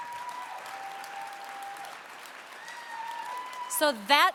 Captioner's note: applause